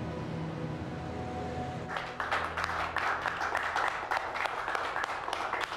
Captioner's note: clapping